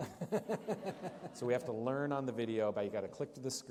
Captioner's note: laughter